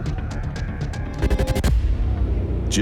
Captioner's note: electronic scratching